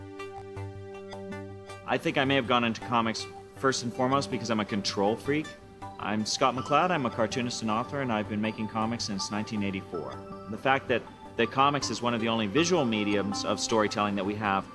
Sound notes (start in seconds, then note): none